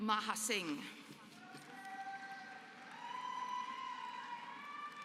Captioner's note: applause